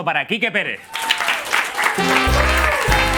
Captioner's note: applause and cheers